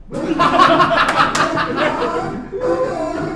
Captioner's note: insane laughter